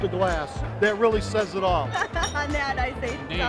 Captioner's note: laughs